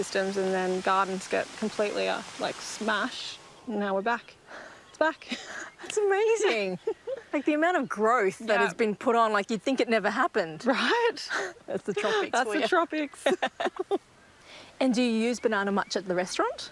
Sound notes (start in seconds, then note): 13.2 laughs